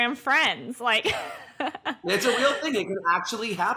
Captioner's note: laughs